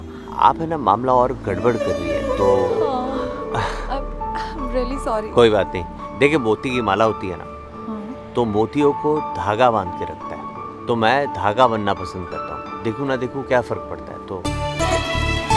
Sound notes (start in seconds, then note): 3.3 Anuj exhales